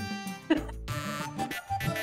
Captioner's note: chuckling